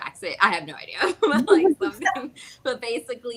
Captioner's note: all laugh